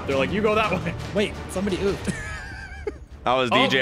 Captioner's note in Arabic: يضحك